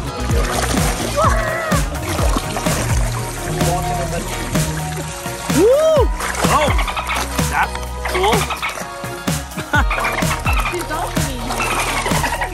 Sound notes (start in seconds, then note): 9.8 dolphin sounds